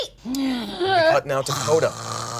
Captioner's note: snores